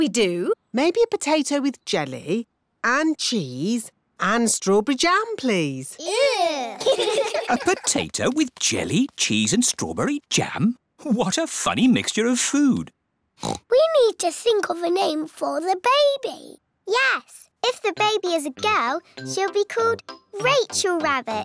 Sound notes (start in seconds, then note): 6.0 giggling; 13.4 oinks